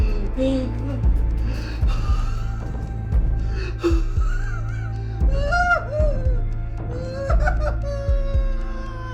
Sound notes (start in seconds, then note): 5.3 painful, loud wailing; 5.3 threatening ambient music with pulsing rhythm